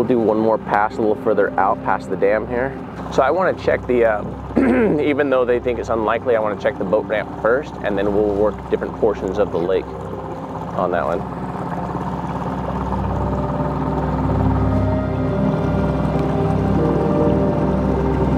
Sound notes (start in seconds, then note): 11.7 boat spluttering; 11.7 dramatic music